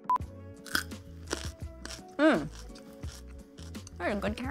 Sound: carrot crunches

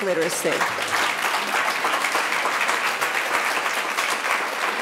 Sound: audience applauding

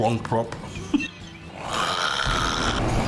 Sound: laughing through mouthful

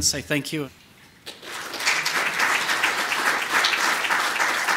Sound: applause

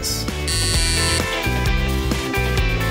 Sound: buzzer sound; upbeat music

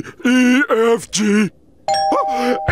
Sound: doorbell ringing

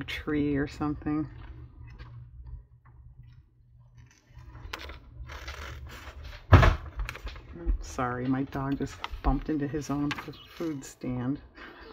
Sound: laughs

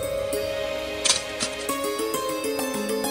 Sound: rustling

